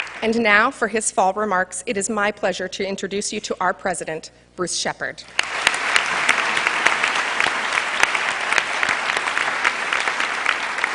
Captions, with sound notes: And now for his full remarks, it is my pleasure to introduce you to our president, Bruce Shepard. [APPLAUSE]